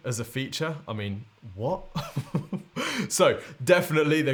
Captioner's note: laughs